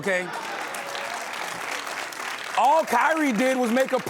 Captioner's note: applause